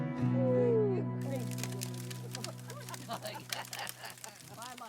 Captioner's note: fire crackling